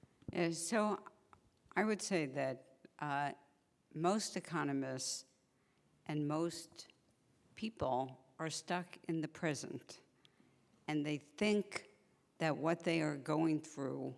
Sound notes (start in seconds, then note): none